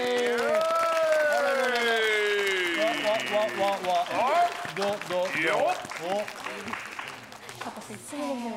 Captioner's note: clapping